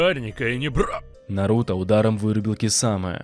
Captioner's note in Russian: звук боли